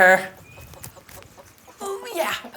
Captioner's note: hens cluck